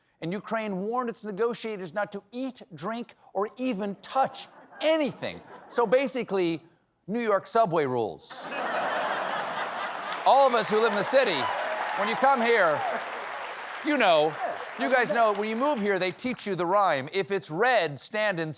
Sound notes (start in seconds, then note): 7.9 applause; 8.3 laughter